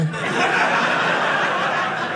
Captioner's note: audience laughing